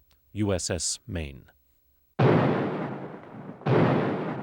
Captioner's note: cannon fires